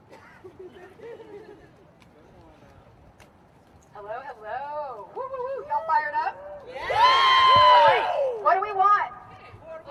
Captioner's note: cheering